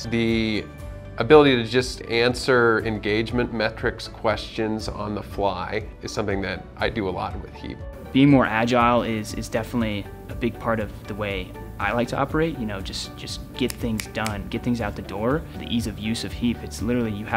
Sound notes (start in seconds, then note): 13.6 snaps fingers